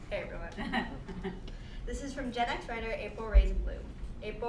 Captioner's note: laugh